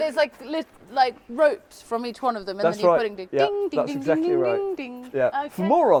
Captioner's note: makes bell ringing sound